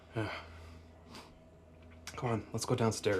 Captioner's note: Ben sniffs